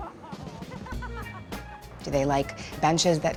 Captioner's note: laughter